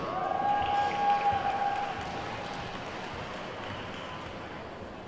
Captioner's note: attendees whooping and clapping